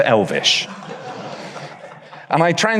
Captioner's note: audience laughs